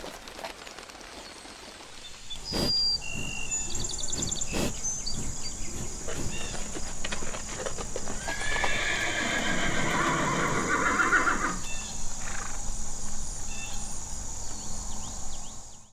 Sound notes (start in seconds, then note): 0.0 wings flapping; 2.4 calf sniffing; 8.1 horse whinnying